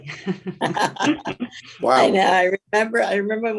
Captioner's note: panelists laughing